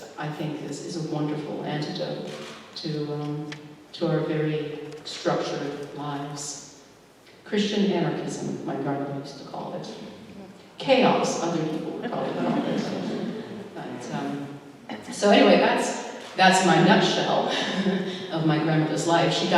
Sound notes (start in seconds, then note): 12.0 laughter